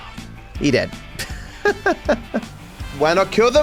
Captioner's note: laughs